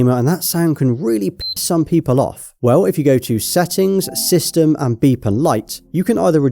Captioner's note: beep